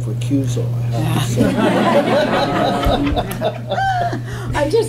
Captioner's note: laughter